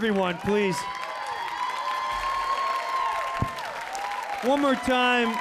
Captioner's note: audience cheering